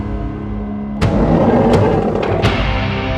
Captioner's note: growling